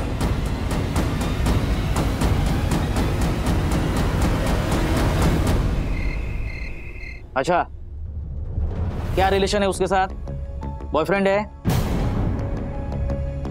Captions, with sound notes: [drum roll] [crickets chirping] Okay. What is your relationship with him? Is he your boyfriend?